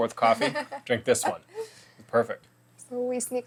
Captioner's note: laughs